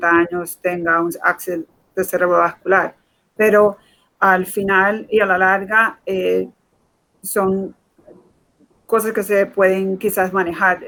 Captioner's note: speaking in Foreign Language